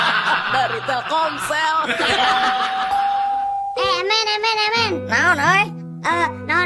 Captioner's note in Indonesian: tertawa